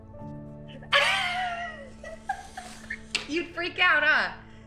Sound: laughing

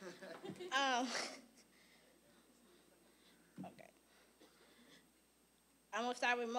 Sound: audience laughing

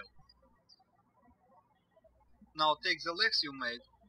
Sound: birds chirping

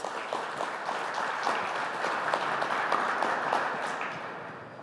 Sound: applause

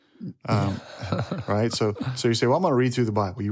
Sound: laughs

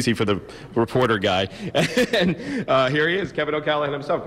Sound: laughs

